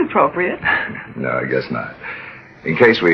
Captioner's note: laughs